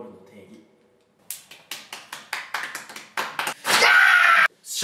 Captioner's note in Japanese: パチパチ